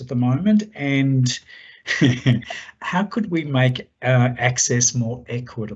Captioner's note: laughs